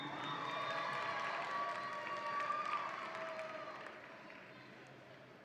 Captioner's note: audience applauds and cheers